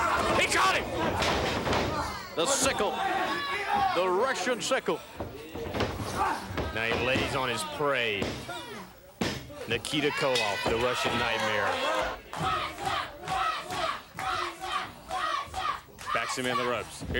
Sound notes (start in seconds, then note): 11.6 bell ringing; 13.9 crowd cheering